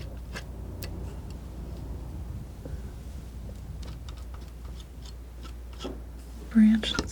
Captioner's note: scratching